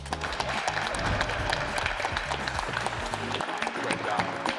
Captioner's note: applauding